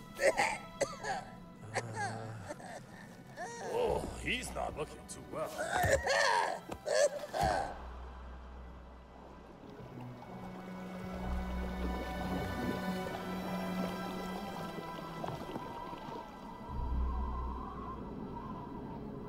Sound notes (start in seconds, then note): 0.1 he coughs; 5.5 cartagena coughs